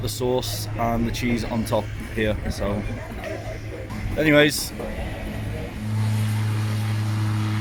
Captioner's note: confused